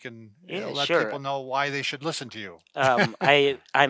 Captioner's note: laughing